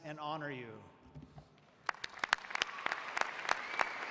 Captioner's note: applause